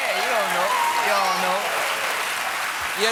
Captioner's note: applause